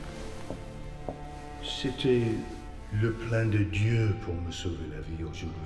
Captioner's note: speaks in French